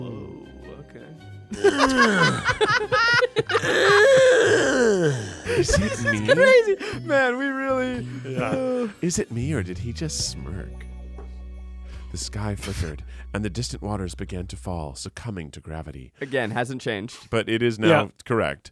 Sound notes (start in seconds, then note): 1.5 grunts; 1.5 everyone laughs